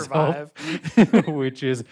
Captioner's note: laughs